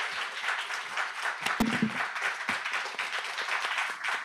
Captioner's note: audience applauds